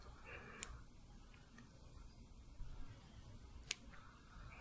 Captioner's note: brushing fabric